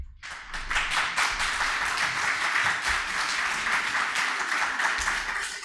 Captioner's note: audience applauding